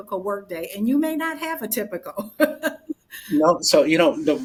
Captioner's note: laughs